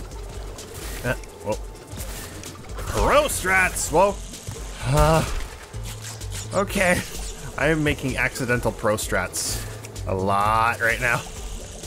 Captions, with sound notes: PRO STRATS! *"dear god help me" noises* Okay, I am making a lot of accidental pro-strats right now...